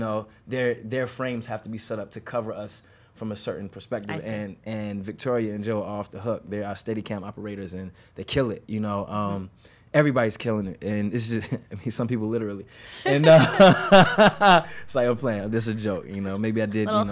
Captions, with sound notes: their frames have to be set up to cover us from a certain perspective. And and Victoria and Joe are off the hook. They are our Steadicam operators. And they kill it, you know. Everybody's killing it, and some people literally. And [laughs] It's a play, it's a joke.